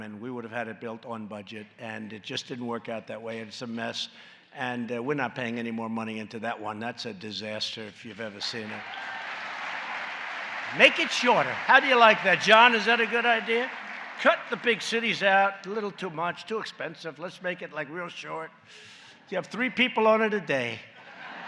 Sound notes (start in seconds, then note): 9.3 applause